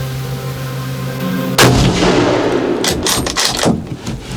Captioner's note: gunshot